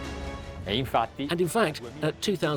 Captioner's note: upbeat music; speaking in foreign language